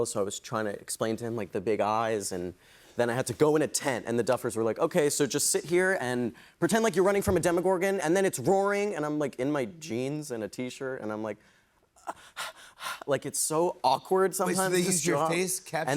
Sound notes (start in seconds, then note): 12.0 breathing heavily